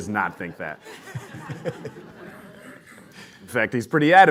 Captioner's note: laughter